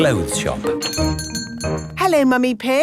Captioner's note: doorbell chiming